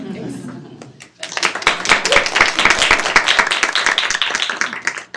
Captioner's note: attendees clap